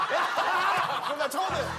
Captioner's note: laughing